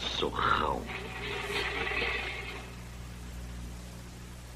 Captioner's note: clattering